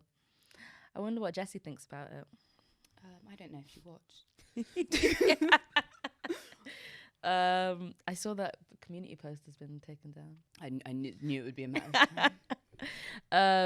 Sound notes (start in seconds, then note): 4.6 both laughing; 11.8 laughs